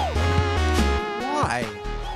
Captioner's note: HOOOs continue in background